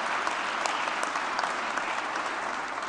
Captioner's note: applause